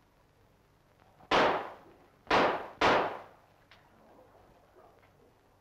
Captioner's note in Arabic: صوت طلقات نارية